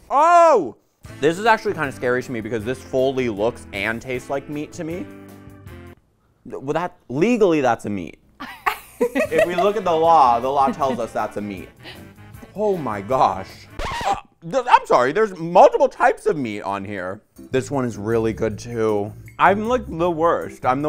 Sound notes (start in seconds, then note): 13.6 record scratching